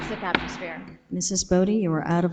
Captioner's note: gavel taps